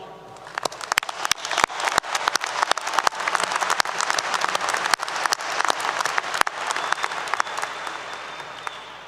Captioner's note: applause 👏 👏